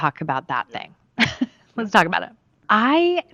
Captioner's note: laughs